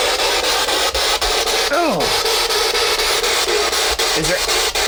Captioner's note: static buzzing